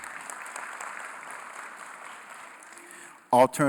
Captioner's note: applause